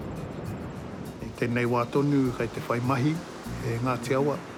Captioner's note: waves crash